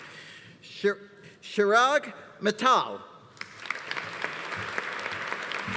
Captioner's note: audience applauding